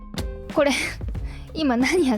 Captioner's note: laughs